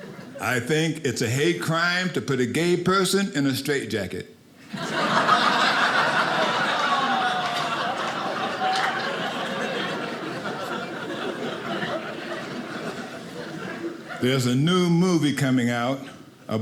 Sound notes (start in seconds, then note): 4.6 audience laughing